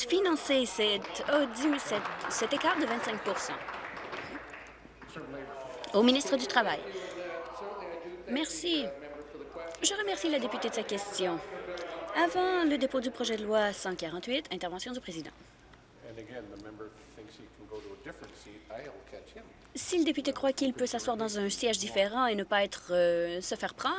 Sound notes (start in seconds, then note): 4.9 applause